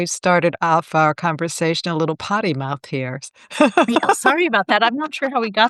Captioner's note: laughing